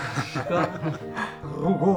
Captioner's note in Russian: смех